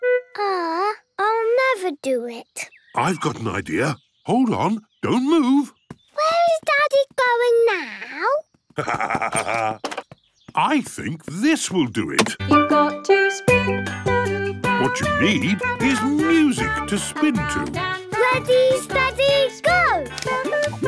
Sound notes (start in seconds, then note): 8.7 laughs; 12.6 radio